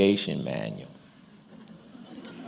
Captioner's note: laughter